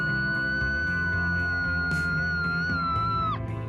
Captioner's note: excited screams